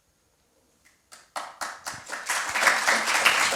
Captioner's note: applause